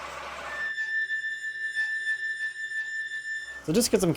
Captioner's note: squeaking